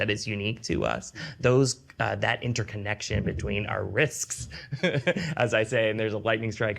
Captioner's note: laughs